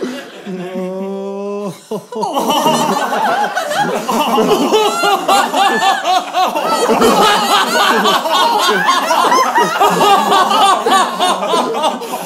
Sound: rising evil laughter

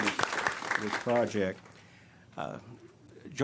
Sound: clapping

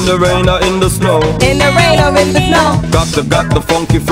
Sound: beeps

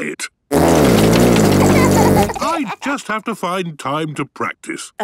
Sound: laughter

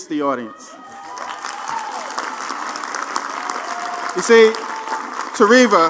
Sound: applause

